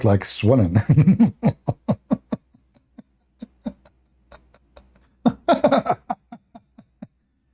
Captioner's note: Ketawa